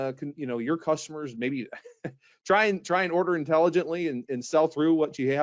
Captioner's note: laughs